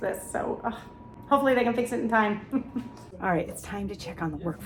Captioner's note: chuckles